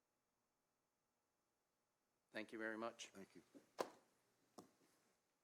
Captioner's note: moment of silence